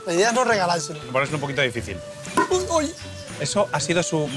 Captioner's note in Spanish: sonido seco